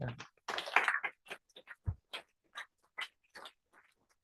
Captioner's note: applause